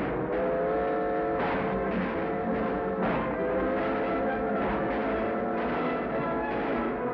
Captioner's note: train horn whistles; guns bang